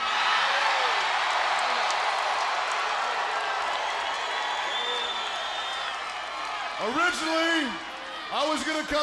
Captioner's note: crowd cheering